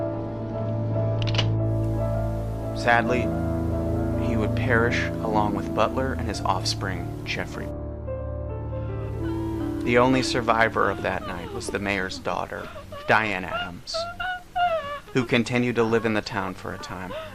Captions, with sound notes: (Gun cocks) Sadly, he would perish along with Butler and his offspring, Jeffrey. The only survivor of that night was the mayor's daughter, Diane Adams, who continued to live in the town for a time.